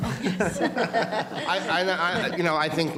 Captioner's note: audience laughing